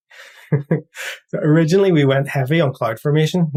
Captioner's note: laugh